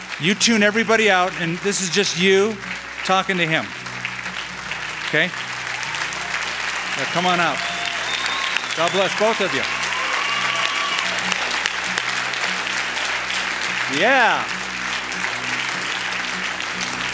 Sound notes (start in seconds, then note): 3.9 applause